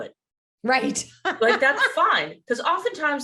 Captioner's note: laughs